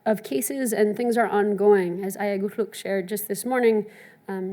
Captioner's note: speaks in foreign language